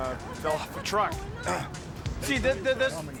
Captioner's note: clears throat